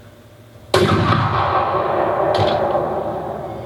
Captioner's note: SFX - Rifle shot